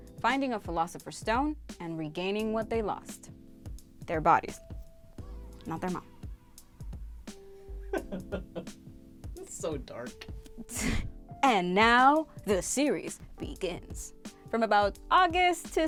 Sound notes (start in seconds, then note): 7.9 laughing